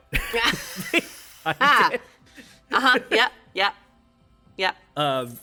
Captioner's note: chuckles